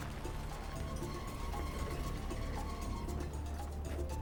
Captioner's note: truck creaking